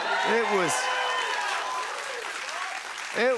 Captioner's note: cheers and applause